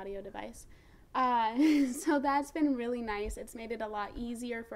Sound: laughs

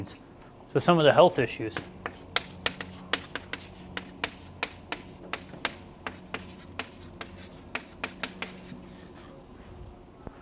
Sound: chalkboard writing

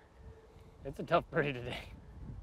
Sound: chuckles

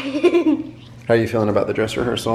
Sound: giggles

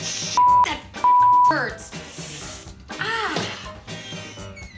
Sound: inhales sharply

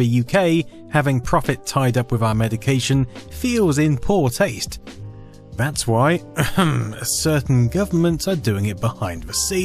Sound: ahem

